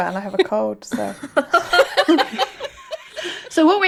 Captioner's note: laughing